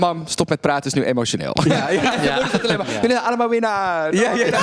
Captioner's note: impersonates Envy's mom